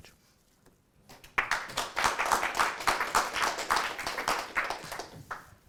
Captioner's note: applause